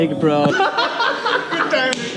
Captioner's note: laughter